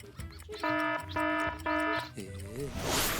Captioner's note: alarm sounding; clock ticking